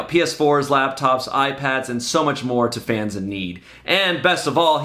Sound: none

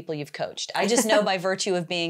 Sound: laughs

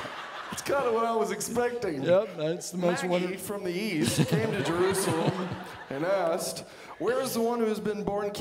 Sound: audience laughing; audience laughing

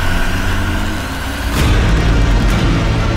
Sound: crowd cheering

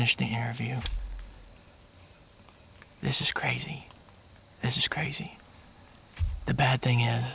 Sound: whispering

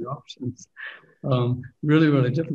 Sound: laughing

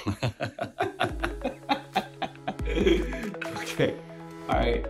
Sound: both Laughing

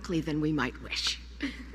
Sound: laughter

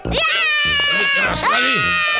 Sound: grunting

